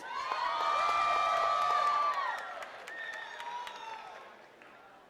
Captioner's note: attendees cheering and clapping